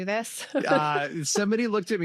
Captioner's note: laughter